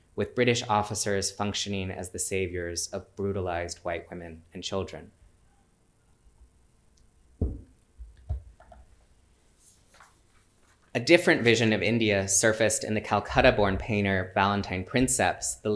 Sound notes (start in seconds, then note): none